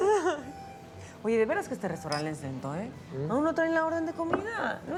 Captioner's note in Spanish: Risas